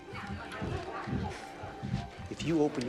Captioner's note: crowd